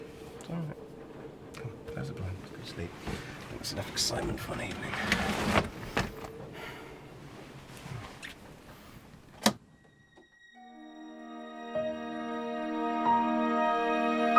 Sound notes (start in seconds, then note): 8.2 kissing; 9.4 click; 9.4 dark melancholic music